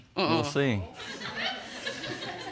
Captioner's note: audience laughing